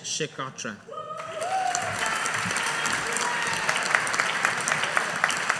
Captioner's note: audience applauding